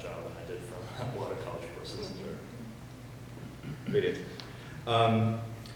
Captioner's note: chuckles